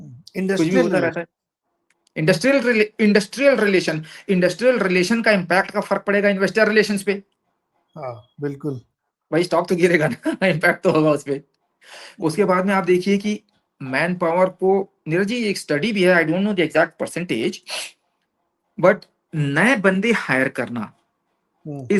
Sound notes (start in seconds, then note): 10.4 laughs